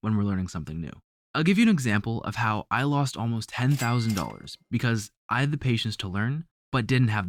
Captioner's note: cash sound